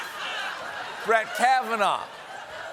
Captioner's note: laughter